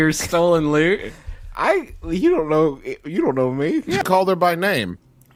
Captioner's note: stammering